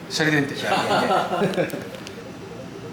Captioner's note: laughs